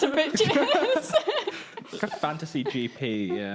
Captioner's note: laughing